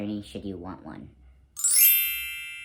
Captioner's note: bell tone